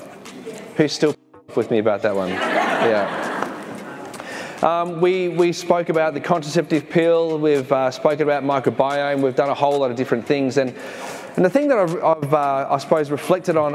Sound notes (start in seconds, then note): 2.2 audience laughs